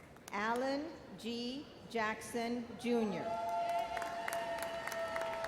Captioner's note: audience cheers and applauds